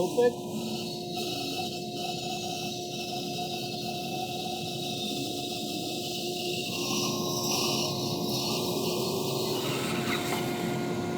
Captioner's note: saw squeaking